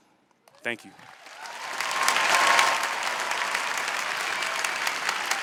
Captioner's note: applause